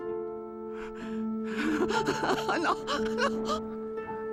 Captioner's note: screaming